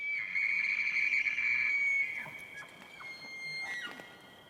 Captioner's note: elk bugles